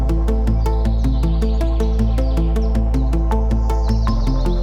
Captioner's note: birds chirping